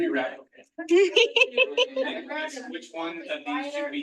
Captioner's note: participant giggling